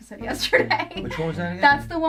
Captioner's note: laughs